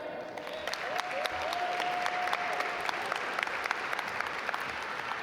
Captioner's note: audience applaud